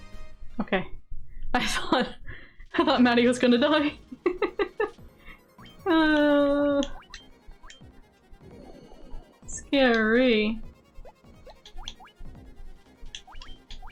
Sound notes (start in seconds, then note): 10.6 deep breath